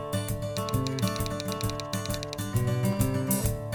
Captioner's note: typewriter sounds